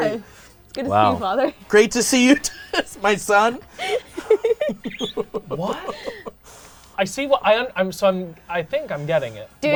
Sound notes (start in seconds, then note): 3.7 laughing